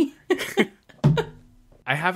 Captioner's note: laughs